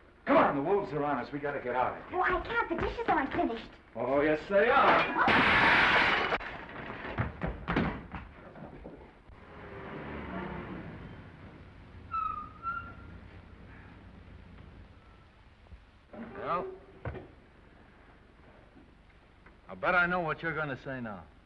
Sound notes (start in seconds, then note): 4.8 plates shattering; 6.0 footsteps receding; 9.2 engine rumbling; 12.1 tires squealing